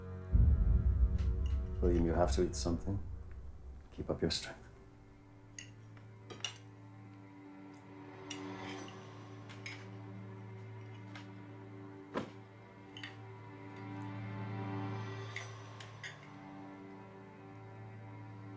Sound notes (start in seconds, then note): 8.3 tense string music; 8.6 silverware scraping